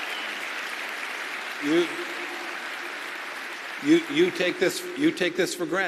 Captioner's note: applause